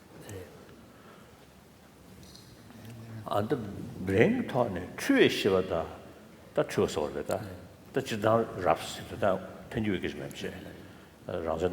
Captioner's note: foreign Language